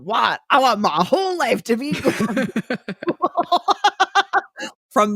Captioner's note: laughs